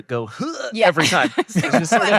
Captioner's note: grunting